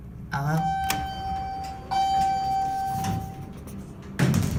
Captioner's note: elevator Chimes Twice